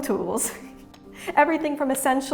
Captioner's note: chuckles